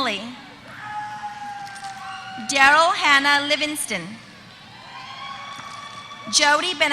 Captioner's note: applause